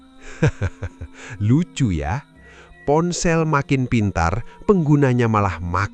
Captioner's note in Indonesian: tertawa